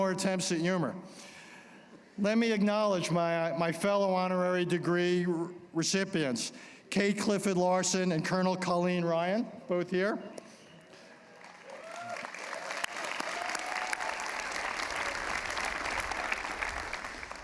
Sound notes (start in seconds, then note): 11.2 applause